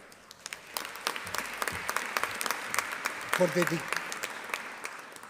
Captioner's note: audience applauding